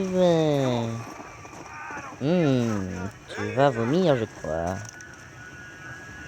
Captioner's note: screams in pain; creepy music